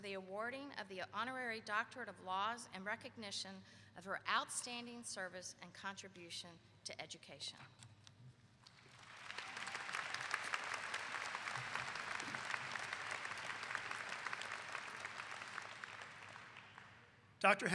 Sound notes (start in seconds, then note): 8.6 clapping